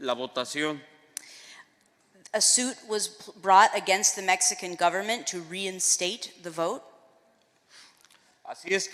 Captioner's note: speaking spanish